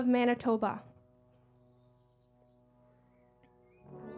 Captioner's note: speaking French